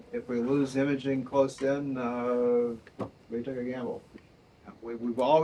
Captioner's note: none